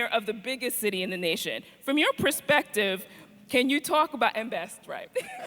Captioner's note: laughs